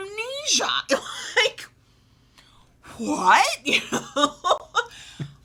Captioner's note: laughs